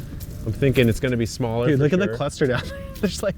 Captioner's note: chuckles